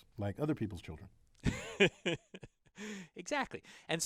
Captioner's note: laugh